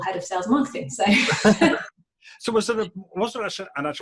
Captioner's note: laughing